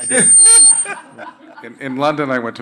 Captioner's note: panelists laughing